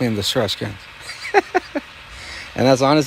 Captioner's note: chuckling